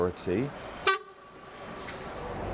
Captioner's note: bus honks